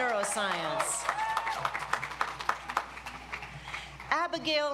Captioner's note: audience applauds